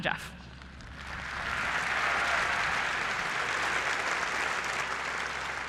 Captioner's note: applause